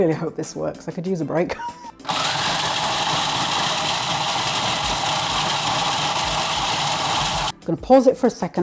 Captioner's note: food processor whirring, crunchy sound